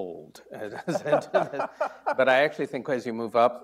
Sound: laughs

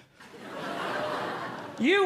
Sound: audience laughter

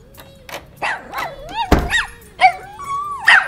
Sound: opening door; barking and squealing

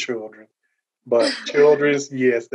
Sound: laughs

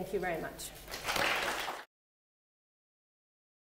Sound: applause

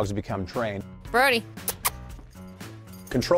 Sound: kisses air

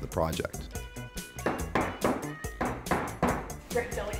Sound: mallet banging

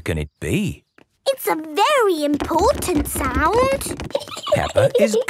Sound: giggling

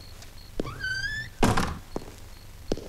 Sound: door creaks

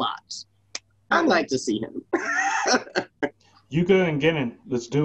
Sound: laughs

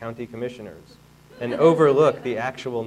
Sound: audience laughing

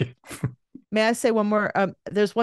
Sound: laughs

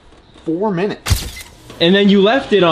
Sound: camera flashes

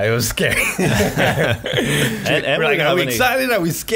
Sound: laughing

